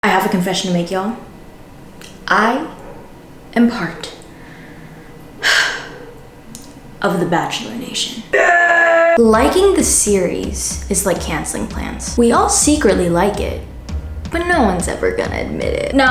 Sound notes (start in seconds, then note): 5.4 sighs; 8.3 grunts "YEAH" aggressively